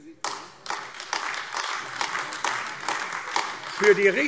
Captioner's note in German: Beifall AfD